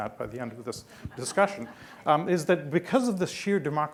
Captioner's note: laughing